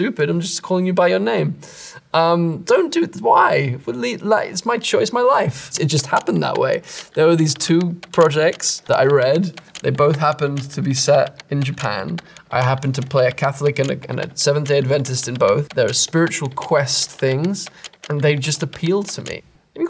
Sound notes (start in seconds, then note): 3.6 stammers